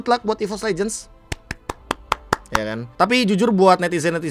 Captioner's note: claps